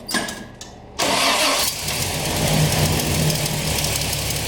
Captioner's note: truck starting